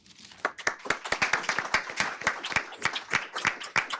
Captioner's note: audience applauds